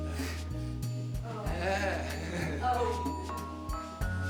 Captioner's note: grunting, gasping